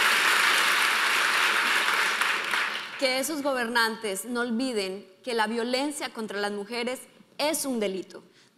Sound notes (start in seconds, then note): 3.2 speaking in foreign language